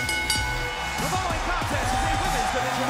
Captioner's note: bell ringing